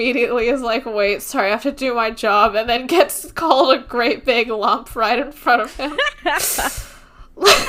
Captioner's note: laughs